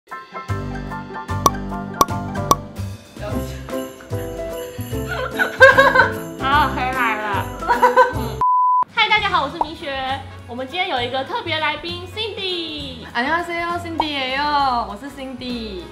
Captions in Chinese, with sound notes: (爆笑) 好了~我回來了 嗨大家好我是米雪 我們今天有一個特別來賓Cindy 大家好~我是Cindy